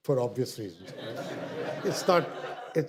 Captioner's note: audience laughter